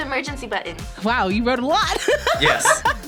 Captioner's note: laughs